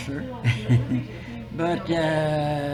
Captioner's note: laughs